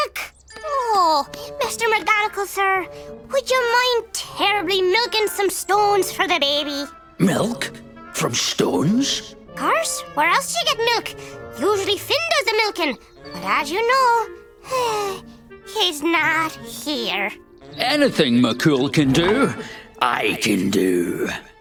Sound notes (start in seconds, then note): 14.2 sigh